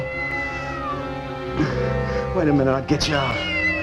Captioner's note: cat Meows